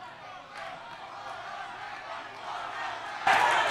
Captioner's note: audience chants